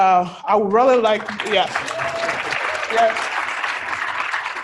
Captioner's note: applause